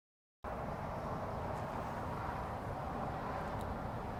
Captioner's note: traffic noise